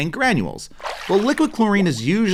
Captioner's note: water splashing